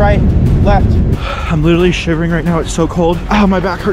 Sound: sighs

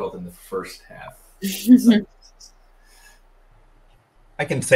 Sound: laughs

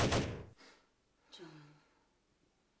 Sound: guns firing; Jon gasps

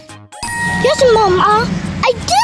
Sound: dinging

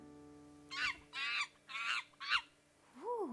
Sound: monkey squeaking

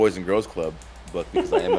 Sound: laugh

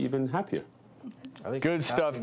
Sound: giggles

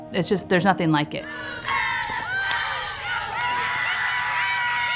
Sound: players chant and cheer

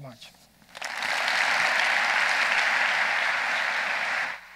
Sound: audience applauding

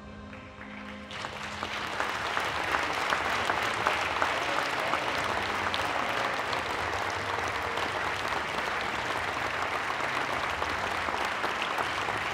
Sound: applause

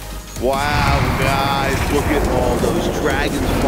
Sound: dragons roar

